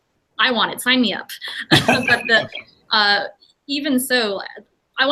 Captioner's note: laughter